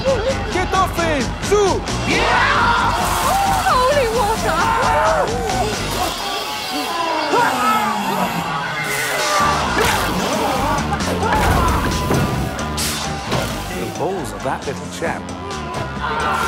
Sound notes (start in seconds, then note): 2.2 shouts; 7.2 shouts; 8.7 vampires shout; 15.3 shouts